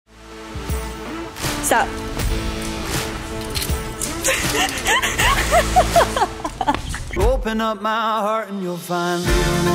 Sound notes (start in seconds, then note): 0.4 rock music; 2.8 rock music continues; 4.2 both laughing